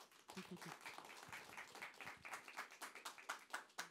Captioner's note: applause